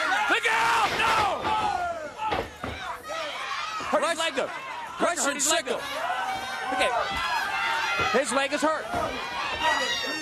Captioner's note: crowd cheering